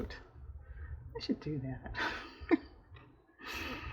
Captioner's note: laughs